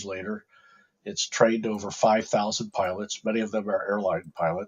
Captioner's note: mouse clicking